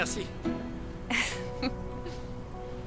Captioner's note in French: rires